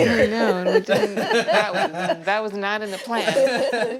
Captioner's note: laughs